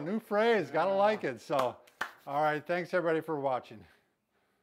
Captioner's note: claps